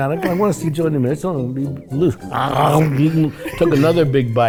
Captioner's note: Cheech chomps dramatically